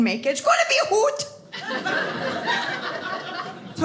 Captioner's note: audience laughing